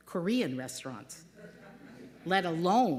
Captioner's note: laughter